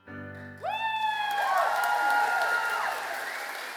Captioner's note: cheers